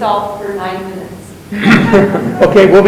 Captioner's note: chuckles